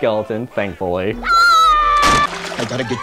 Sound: Flounder screams

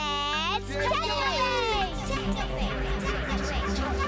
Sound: echoing

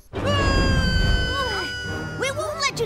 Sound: bully yells

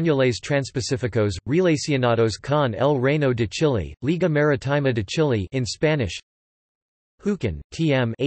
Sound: in Spanish

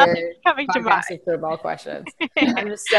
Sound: laughing

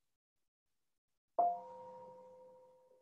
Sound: chime

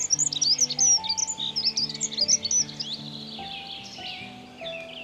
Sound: birds sing

